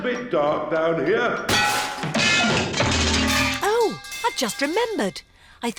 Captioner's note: clanging and crashing